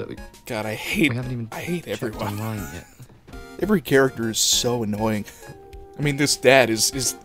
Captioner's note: laughter